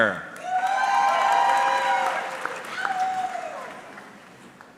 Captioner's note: audience cheering